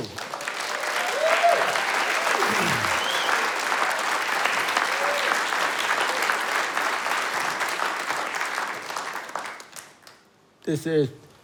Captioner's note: applause and Cheers